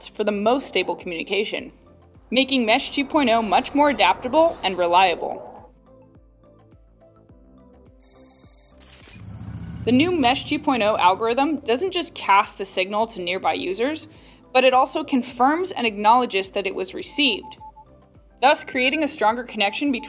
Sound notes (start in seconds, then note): 9.2 motorcycle engine running